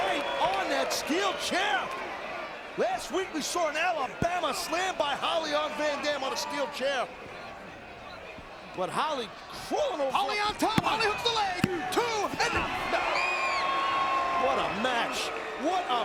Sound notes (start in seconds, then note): 10.5 hand slapping; 13.5 crowd cheering